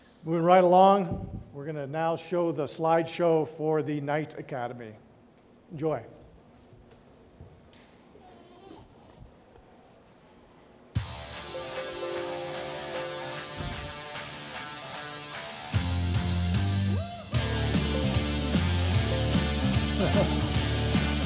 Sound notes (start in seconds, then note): 8.2 child crying; 11.2 upbeat rock music